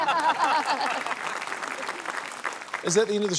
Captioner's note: laughter, applause